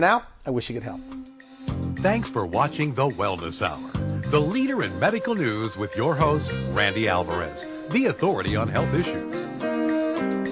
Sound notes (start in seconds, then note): 1.4 upbeat music; 2.7 voiceover